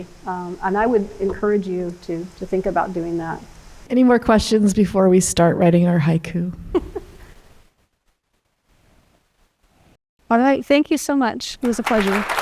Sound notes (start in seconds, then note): 6.6 laughs